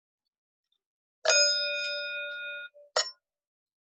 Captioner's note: bell rings